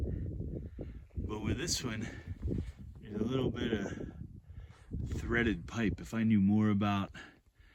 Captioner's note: light wind noise